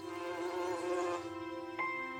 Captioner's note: insect buzzes